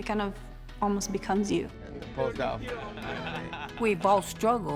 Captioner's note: laughter